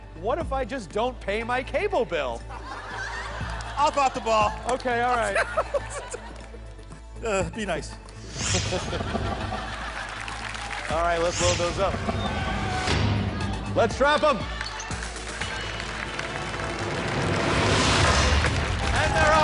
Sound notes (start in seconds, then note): 2.4 laughter; 5.0 laughs